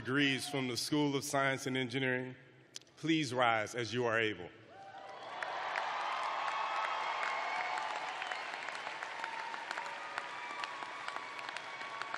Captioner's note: cheering